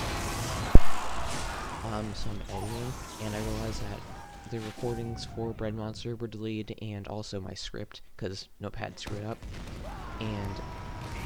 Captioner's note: mic pop